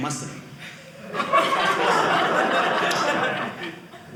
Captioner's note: audience laughing